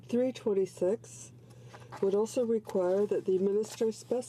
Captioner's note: speaking in french